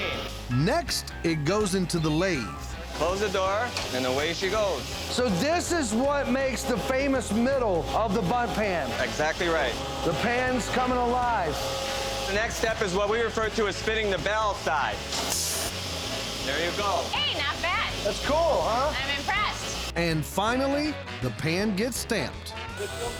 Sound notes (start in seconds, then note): 15.4 grinding sounds